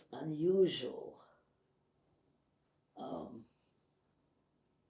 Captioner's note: pauses 11 seconds